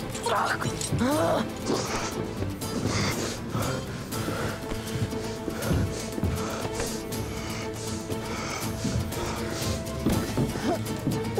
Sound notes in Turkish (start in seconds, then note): 2.7 Nefes sesi